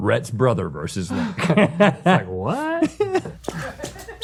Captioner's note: laughing